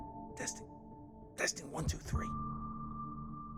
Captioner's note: George whispering